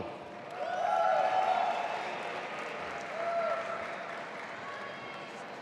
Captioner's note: audience applauding